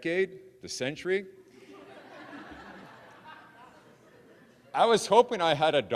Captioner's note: audience laughing